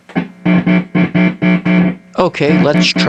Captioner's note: buzzing Sound